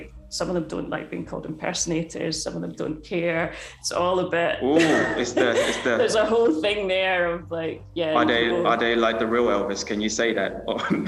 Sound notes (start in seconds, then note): 4.7 laughing